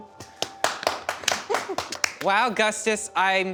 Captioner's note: everyone clapping